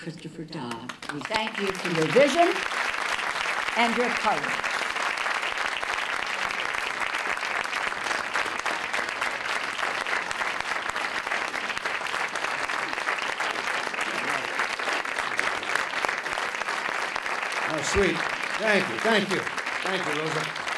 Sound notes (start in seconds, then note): 5.4 applause